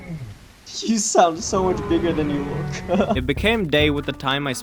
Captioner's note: laugh